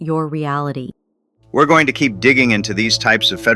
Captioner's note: excited